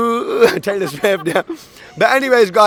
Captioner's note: laugh